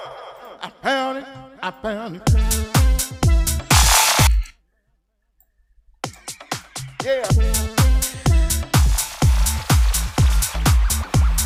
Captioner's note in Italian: Applauso